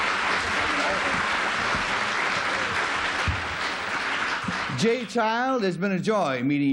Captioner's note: applause